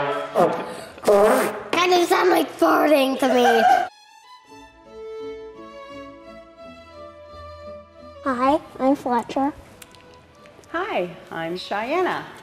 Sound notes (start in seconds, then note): 3.8 audience laughs